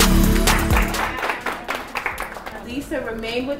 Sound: upbeat music; applause

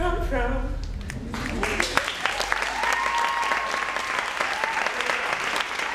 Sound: cheering and applauding

